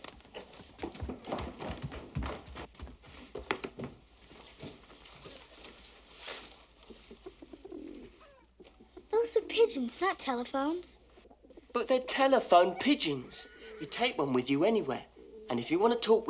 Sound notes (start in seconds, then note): 6.8 pigeons cooing